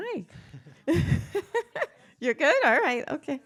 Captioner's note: laughs